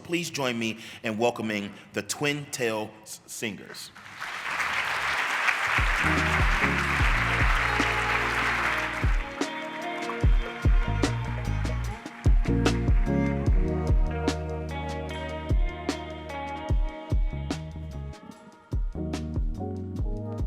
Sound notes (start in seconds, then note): 3.9 applause